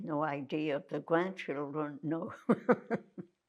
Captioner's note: laughing